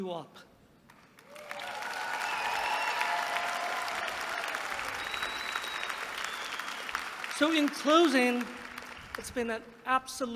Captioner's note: applause